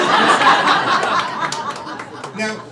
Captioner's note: crowd laughing